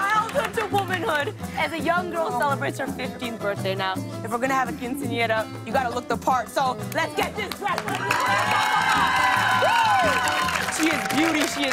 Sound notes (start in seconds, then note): 7.5 cheers and applause